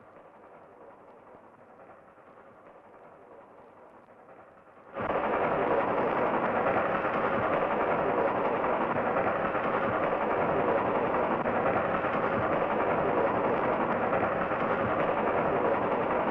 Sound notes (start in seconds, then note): 5.3 train chugging